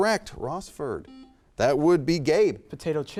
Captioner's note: buzzer chimes